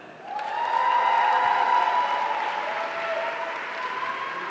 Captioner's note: audience cheering